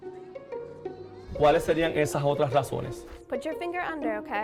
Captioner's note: teacher speaking Spanish